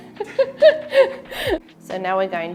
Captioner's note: laughing